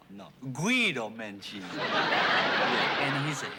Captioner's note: laughter